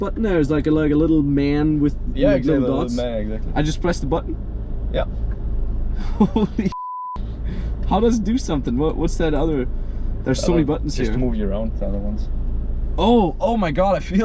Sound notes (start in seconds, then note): 6.7 beep